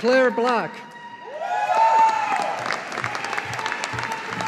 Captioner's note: audience applauding